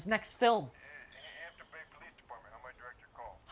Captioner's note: on phone